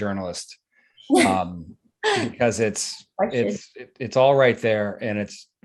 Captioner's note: chuckles